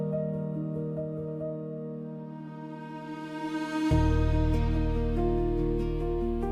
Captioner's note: harsh weather